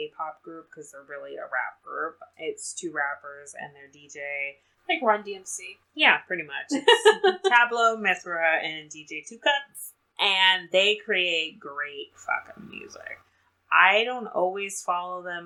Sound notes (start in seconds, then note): 6.7 laughs